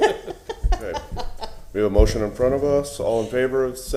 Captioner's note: laughter